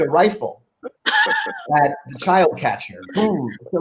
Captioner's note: group laughing